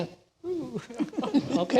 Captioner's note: laughter